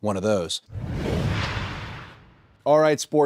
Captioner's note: logo whooshes